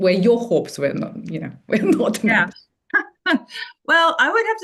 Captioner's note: laughs